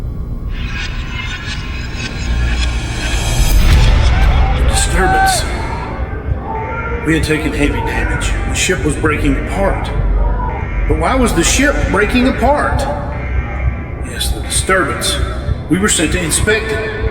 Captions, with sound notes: (eerie whirring) A disturbance. We had taken heavy damage. The ship was breaking apart, but why was the ship breaking apart? Yes, the disturbance, we were sent to inspect it.